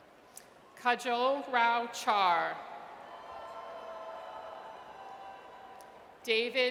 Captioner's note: audience cheers